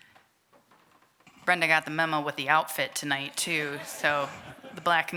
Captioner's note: applause